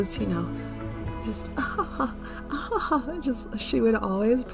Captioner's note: sounds of single, feminine merriment